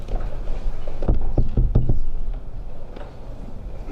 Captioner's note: taps Microphone